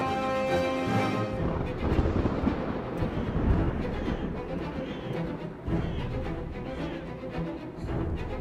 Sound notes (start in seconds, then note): 1.2 approaching thunder sounds